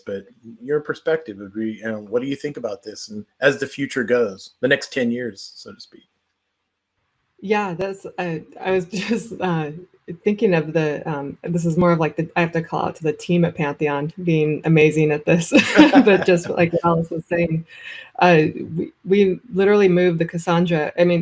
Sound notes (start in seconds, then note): 15.5 laughs